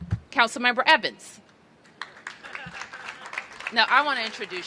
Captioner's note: applause